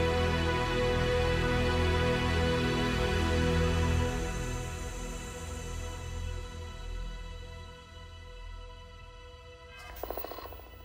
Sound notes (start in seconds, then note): 8.4 radio clicking